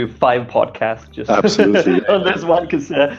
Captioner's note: laughing